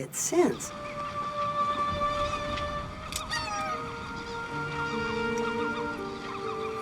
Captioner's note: somber music; birds squawking